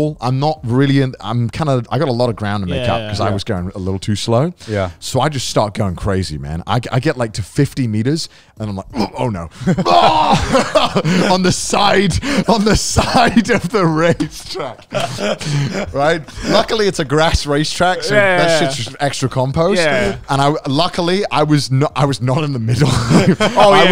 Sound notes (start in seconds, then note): 9.8 screaming; 14.8 all laughing